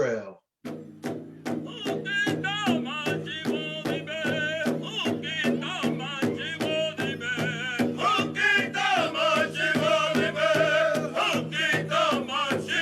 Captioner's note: native american language plays